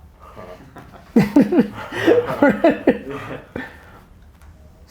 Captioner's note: group laughter